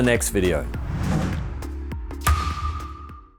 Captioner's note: pattern whooshing